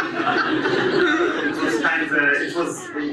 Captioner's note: audience laughs